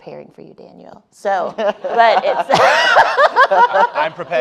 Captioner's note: laughing